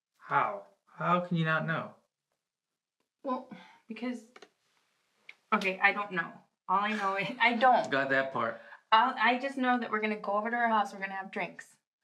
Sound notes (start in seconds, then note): 7.1 he sighs